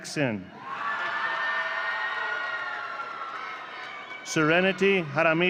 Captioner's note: audience cheering